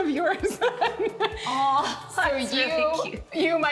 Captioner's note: laughs